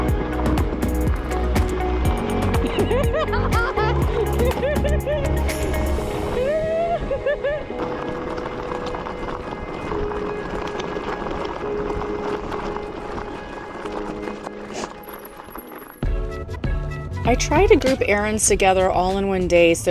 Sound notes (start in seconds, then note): 2.6 laughing; 6.9 gravel crunching; 16.0 upbeat music